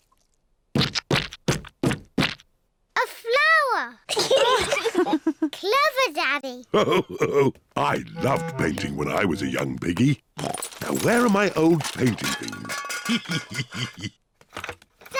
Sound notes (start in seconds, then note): 4.1 giggles; 6.8 all laugh